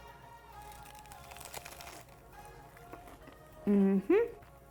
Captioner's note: sandwich crunching